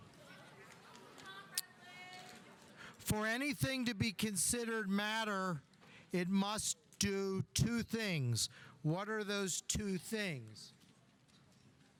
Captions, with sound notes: (student yelling) For anything to be considered matter, it must do two things. What are those two things?